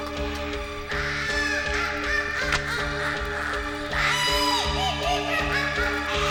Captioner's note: witch laughing